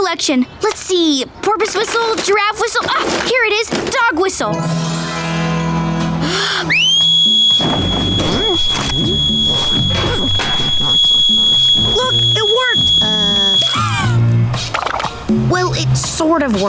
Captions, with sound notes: Let's see, porpoise whistle, giraffe whistle, ah, here it is, dog whistle. [whistle blowing] Look, it worked. Well, it sort of worked,